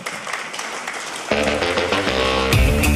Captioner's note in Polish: oklaski